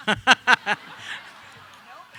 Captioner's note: audience laughing